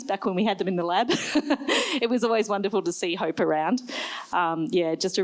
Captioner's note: laughs